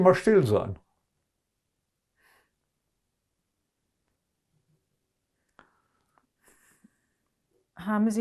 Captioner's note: pauses 6 seconds